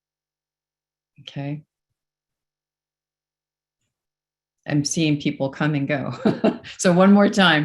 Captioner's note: chuckles